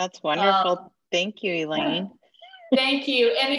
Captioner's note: laughter